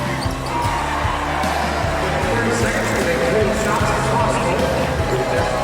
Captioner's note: cheers and applause